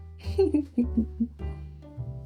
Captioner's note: laughter